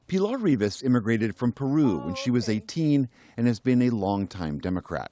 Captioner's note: speaking Spanish